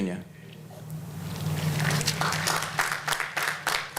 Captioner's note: applause